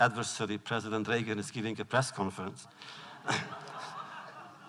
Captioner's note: laughter